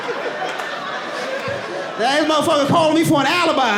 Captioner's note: audience laughing